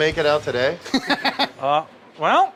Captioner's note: laughing